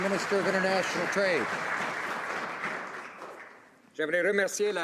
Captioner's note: some Applause